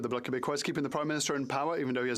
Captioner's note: speaking French